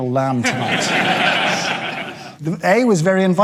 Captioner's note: audience laughing